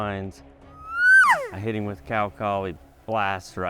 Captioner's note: imitates elk call